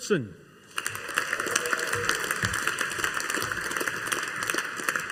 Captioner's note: audience applauding